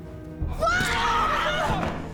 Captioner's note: both screaming